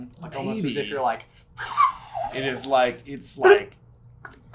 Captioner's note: SUPER impressive mimicry of fishing reel being released